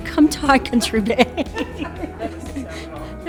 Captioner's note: laughs